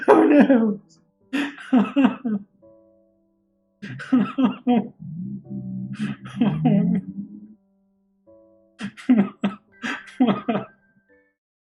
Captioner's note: whimpering laughter